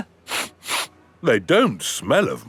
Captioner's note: sniffs